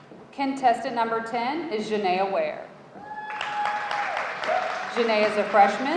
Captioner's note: audience cheering